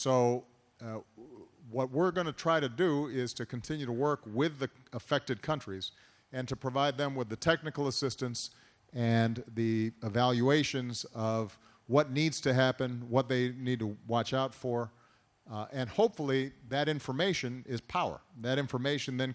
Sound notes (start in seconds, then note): none